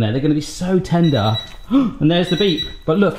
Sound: oven alarm beeping

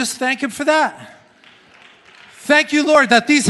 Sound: congregation claps

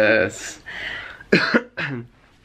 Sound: coughing

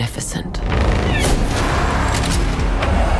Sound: gunshot

